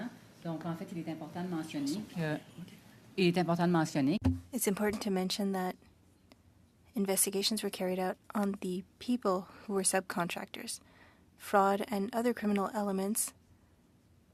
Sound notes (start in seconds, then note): 3.8 speaking French